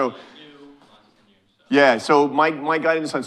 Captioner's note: speaking faintly